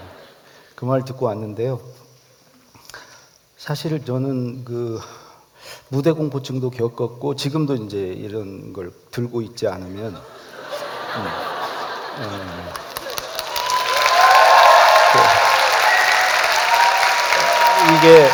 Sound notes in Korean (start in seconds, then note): 0.0 웃음; 10.4 읏음; 11.8 격려의 박수